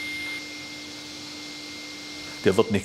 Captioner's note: machine hum